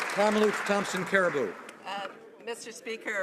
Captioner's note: some Applause